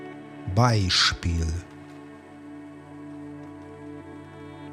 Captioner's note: german